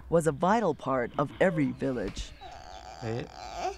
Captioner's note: background Foreign Language